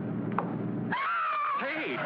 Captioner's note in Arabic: صراخ